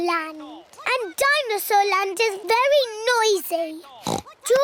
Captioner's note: oinks